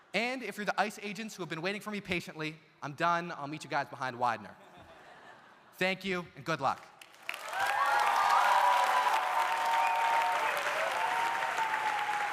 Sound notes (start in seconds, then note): 4.6 audience laughs; 7.0 audience applauding; 7.3 audience cheering